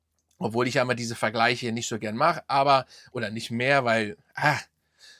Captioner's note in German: japst